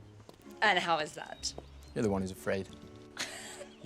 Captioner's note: laughs